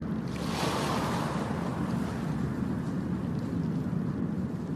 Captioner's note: sounds of waves